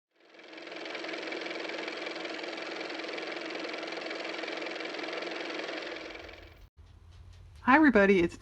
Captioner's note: car motor